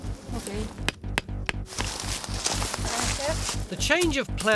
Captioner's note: tool tapping